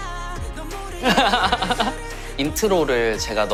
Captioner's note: hahaha